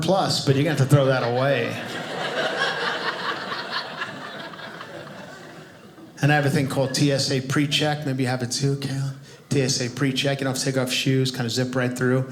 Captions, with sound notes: but you're gonna have to throw that away. (audience laughing) And I have a thing called TSA PreCheck maybe you have it too. TSA PreCheck, you don't have to take off shoes, Kind of zip right through.